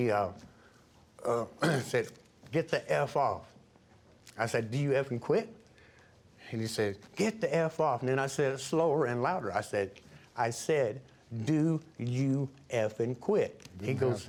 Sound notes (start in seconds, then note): 1.3 clears throat